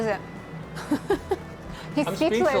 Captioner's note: laughs